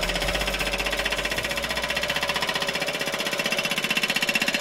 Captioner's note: impact hammer sounds